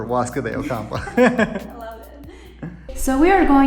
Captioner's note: laughs